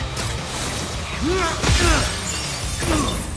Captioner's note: grunts